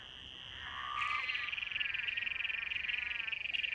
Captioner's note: croaking continues